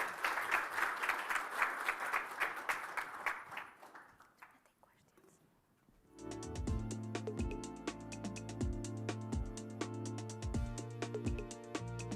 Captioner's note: applause